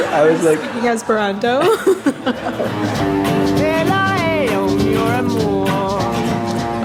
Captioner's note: laughter; laughter